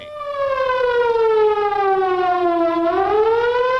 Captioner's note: siren blaring